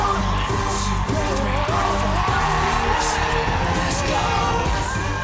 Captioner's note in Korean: 와아아아아아우우우